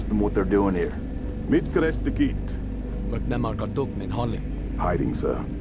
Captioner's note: Jorge and civilian speak in Hungarian